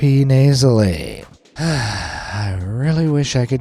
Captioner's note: sighs